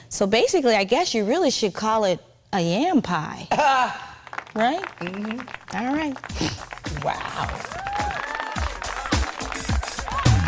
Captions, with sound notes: So basically, I guess you really should call it a yam pie. (Wendy chuckling) (audience applauding) Right? - Mm-hmm. - All right. (chuckling) - Wow! (audience cheering and applauding)